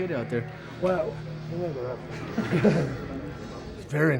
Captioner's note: chuckles